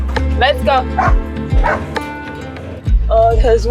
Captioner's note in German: Hund bellt